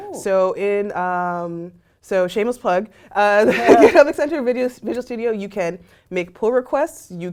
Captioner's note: laugh